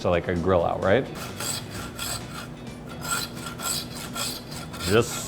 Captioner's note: saw scraping